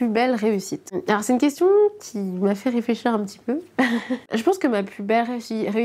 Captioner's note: laughs